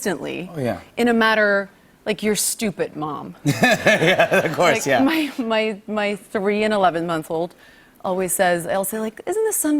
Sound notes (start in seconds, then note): 3.4 laughter